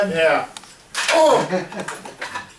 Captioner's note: spine rattling; laughing